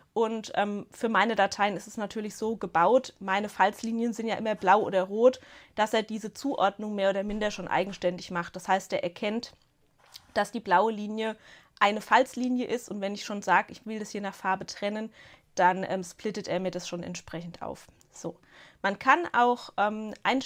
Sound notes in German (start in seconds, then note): none